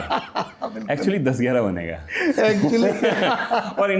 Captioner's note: laughter